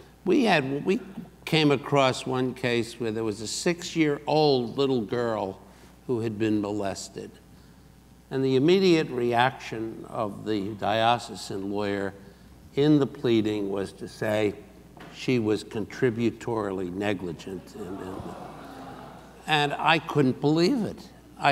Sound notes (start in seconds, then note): 17.8 audience gasps